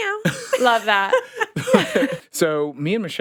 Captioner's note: all laughing